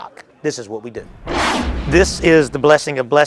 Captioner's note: intense swoosh